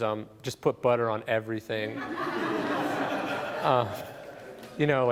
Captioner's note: laughing